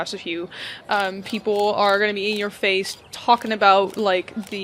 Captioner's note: sounds of cameras flashing